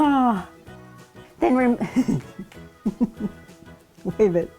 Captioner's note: laughing